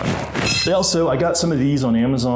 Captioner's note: shoe horns clattering